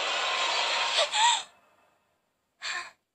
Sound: gasp

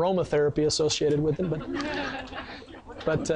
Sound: sound of laughter from audience

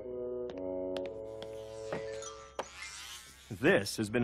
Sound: buzzing noise

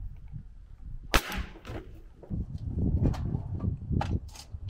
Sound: nail gun shooting

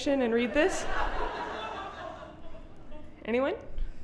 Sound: audience laughing

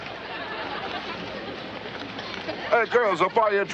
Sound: audience laughter

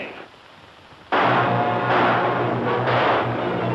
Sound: gunshots!

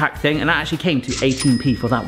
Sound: bell dings

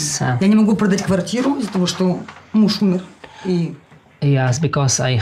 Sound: speaking in foreign language

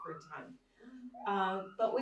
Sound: alarm sounding

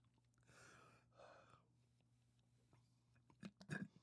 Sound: exhaling

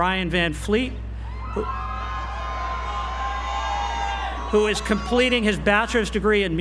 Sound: applause

